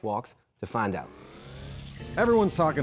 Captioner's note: machine whirring